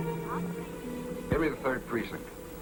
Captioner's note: on phone